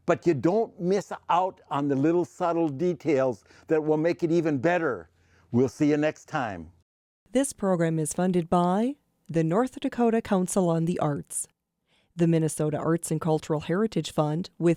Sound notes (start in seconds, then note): 7.4 voiceover